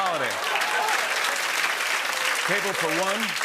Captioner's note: laughter and applause